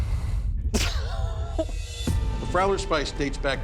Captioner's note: laughter